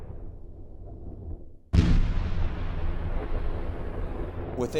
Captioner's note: explosion booms